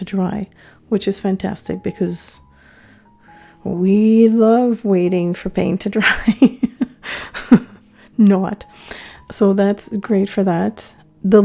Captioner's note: laughing